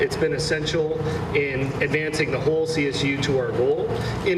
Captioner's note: none